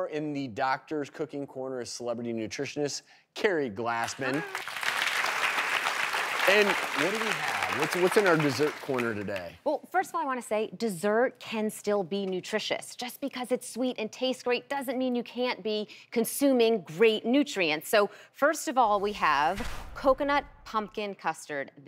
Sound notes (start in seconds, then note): 4.0 applauding